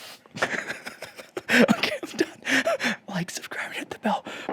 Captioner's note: laughs